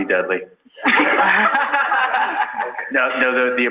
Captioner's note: laughing